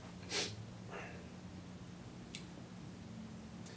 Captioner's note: Randall sniffs